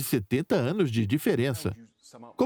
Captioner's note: voiceover